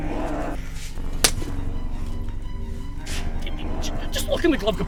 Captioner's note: slap thwacks